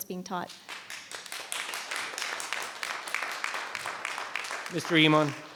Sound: audience applauds

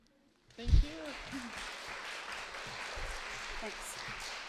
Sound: audience clapping

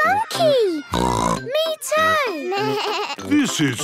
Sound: bleating; snorts

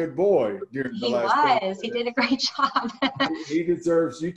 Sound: laughing

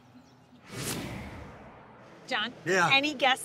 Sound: air whooshes

